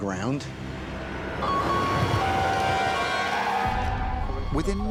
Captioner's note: siren wailing